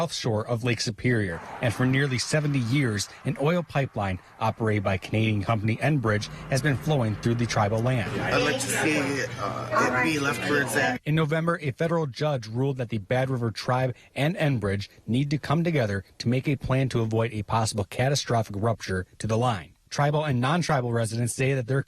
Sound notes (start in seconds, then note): 6.1 nat cars driving